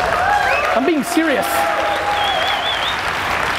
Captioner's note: crowd cheering